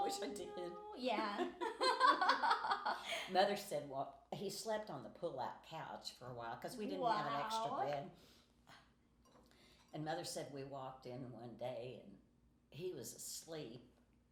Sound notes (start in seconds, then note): 0.9 laughing